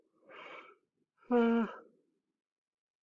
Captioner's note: yawns